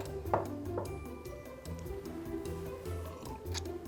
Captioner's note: light music; cup clinking